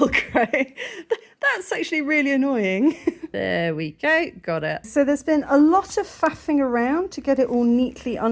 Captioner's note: laughing